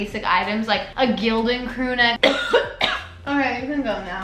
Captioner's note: coughing sound